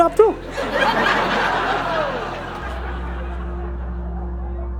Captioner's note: audience laughs; melancholic music